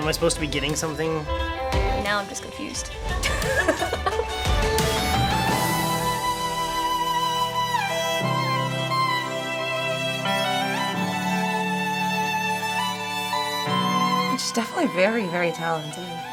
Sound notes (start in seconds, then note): 3.1 laughing; 7.7 lilting violin music